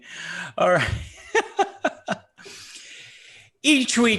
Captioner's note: laughing